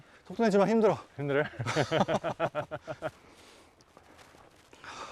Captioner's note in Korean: 거친 숨소리